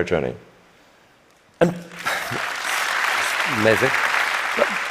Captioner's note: applause